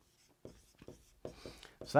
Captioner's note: marker scratching